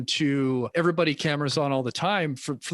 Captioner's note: none